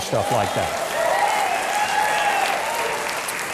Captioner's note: applause